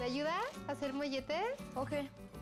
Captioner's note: speaking spanish